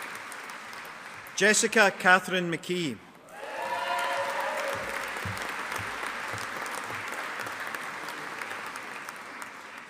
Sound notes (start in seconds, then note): 3.3 audience applauding